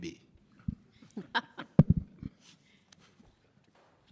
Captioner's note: laughs